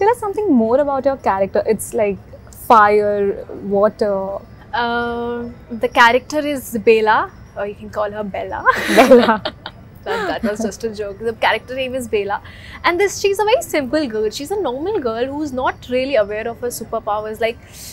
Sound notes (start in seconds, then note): 8.7 laughs